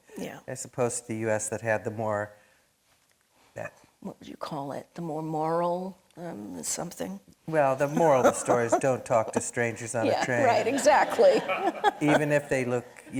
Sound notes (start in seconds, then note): 7.8 laughing; 11.2 audience laughing; 11.9 laughing